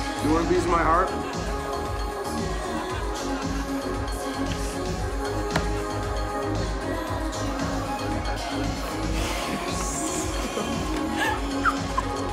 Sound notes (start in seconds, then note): 5.5 slapping; 10.7 laughing